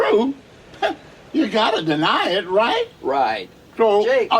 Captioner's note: laughs